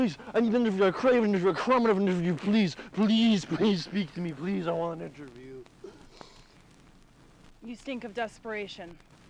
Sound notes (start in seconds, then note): 5.8 sniffs